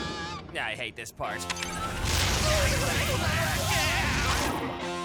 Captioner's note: zzaap